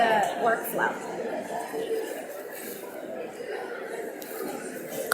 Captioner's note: audience mumbling